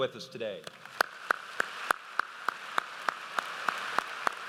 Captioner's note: audience applauds